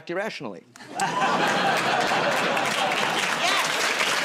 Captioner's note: laughter and applause